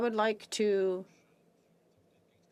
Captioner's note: speaking French